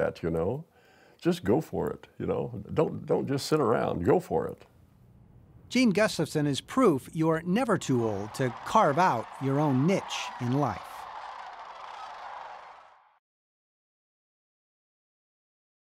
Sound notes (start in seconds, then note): 10.7 cranes calling